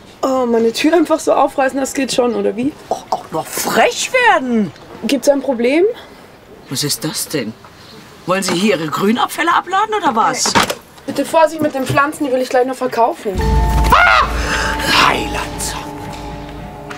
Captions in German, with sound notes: Aber meine Tür einfach so aufreißen, das geht schon, aber wie? Auch noch frech werden. - Gibt es ein Problem? Was ist das denn? Wollen Sie Ihre Grünabfälle abladen, oder was? Die Pflanzen will ich gleich noch verkaufen. (Vogel schreit.)